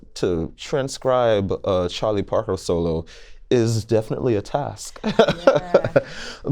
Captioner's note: laughter